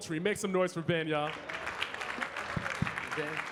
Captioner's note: audience clapping